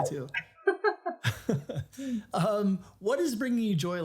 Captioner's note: laughing